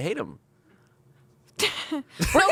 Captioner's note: laughs